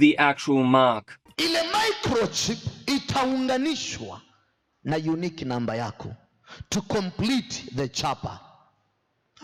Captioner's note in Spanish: En suajili